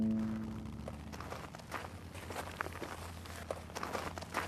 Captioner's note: footsteps